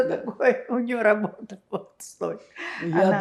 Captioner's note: laughing